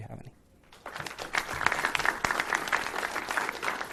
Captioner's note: clapping